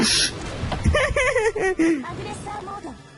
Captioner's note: laughs